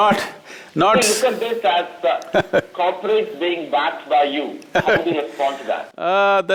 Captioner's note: Sadhguru Laughs